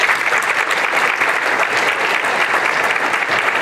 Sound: applause

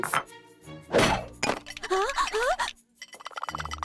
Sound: groaning

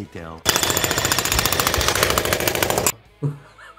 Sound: jackhammer drills; laughs

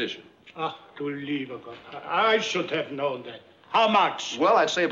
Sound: german

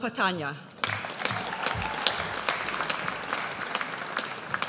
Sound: audience applauds

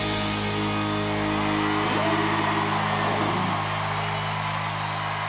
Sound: audience applauds

